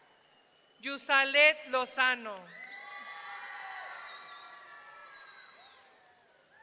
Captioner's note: audience cheering